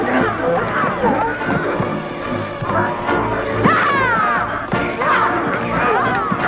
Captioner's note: donkeys bray